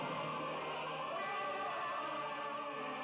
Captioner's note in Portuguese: grito